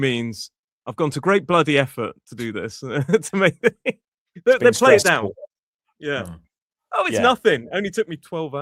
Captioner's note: laughter